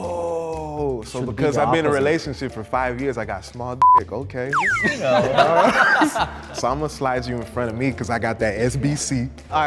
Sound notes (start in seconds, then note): 4.5 beep; 4.7 group laughs